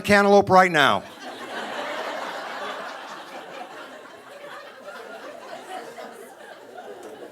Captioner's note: audience laughing